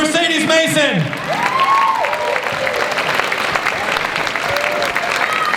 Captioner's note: cheering and applause